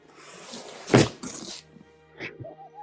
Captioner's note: thud